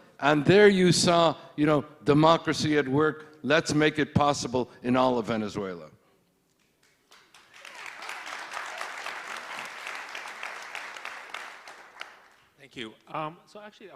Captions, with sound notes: and there you saw democracy at work, let's make it possible in all of Venezuela. (applauding) - Thank you.